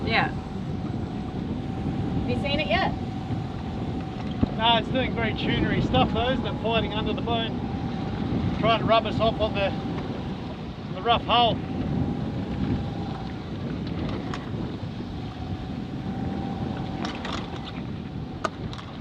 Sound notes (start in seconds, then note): 12.0 wind whistling